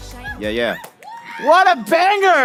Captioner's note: applause